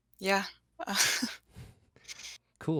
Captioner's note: chuckles